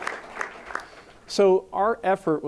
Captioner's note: applause